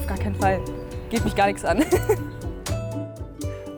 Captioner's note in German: lacht